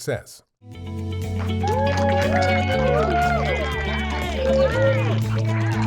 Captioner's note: cheers and applause